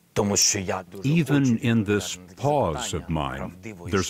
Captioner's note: through translator